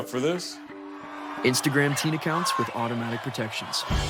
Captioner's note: crowd cheering